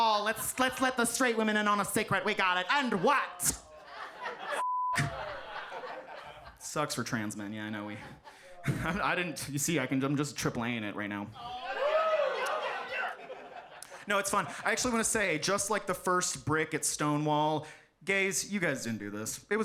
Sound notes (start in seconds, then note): 4.6 beep; 4.9 audience laughs